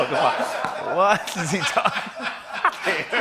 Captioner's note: laughter